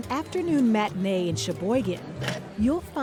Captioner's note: ticket machine clunks